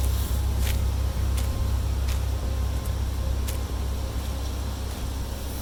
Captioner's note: footsteps crunch